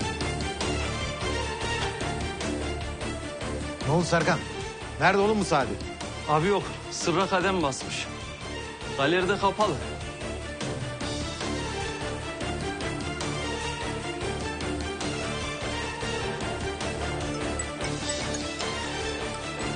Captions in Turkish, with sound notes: Ne oldu Serkan? Nerede oğlum bu Sadi? Abi, yok. Sırra kadem basmış. Galeri de kapalı. [telefon çalar]